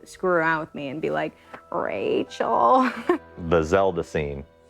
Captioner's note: laughs